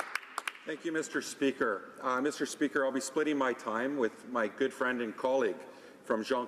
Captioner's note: applause